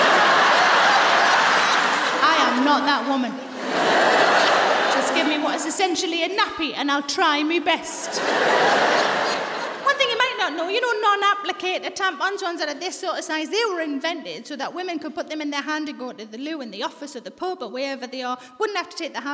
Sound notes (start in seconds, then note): 0.0 laughter; 8.0 laughter